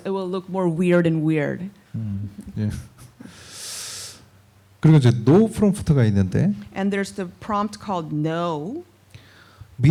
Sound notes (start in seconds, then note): 4.3 speaking korean